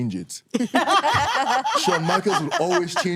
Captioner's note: everyone laughing